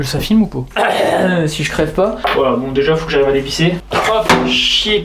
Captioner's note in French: tousse